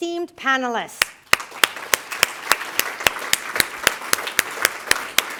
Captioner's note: applause